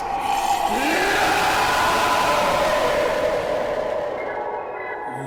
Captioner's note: Ghost whispers getting louder and louder; A very loud scream